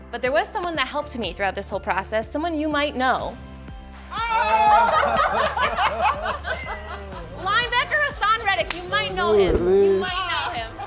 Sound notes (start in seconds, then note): 4.3 homeowners laugh